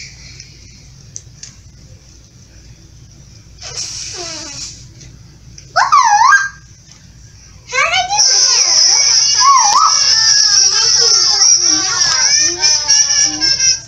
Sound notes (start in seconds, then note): 5.8 pitiful Whistling